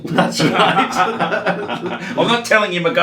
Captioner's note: laughing